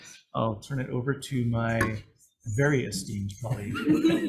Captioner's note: laughter